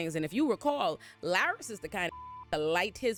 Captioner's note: beep